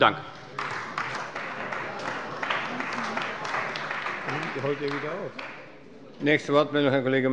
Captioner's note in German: Beifall bei der CDU und dem BÜNDNIS 90/DIE GRÜNEN